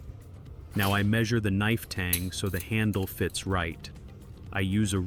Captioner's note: tang